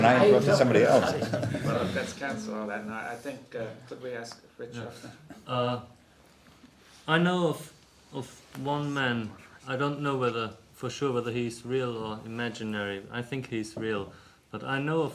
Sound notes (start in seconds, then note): 0.6 laughs